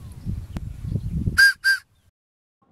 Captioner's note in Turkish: Tiz ve yüksek düdük sesi